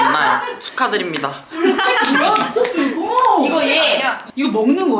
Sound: laughing

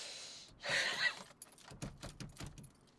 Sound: wheezy cry

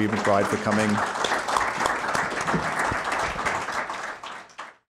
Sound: audience applauding

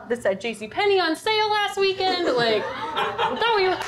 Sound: audience laughter

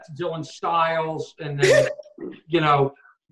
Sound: laughing

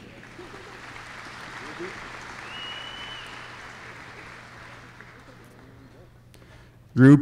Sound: applause

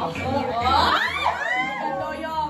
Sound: screams of excitement

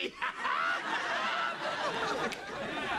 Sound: laughing

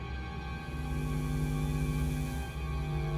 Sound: electrical hum

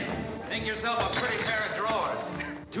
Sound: bottle shatters

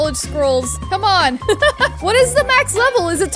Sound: laughs

